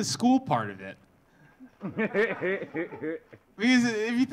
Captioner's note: audience laughing